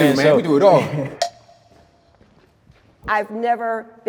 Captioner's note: beeps